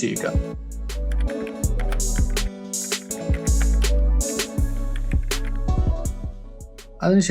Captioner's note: typing